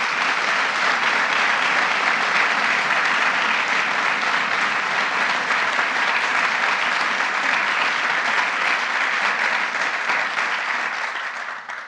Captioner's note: applause